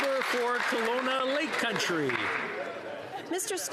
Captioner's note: applause